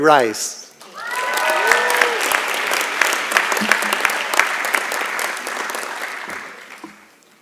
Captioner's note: applause and Cheering